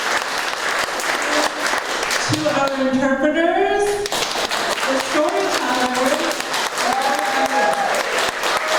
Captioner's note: applause